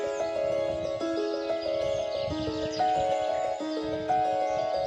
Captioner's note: birds Chirping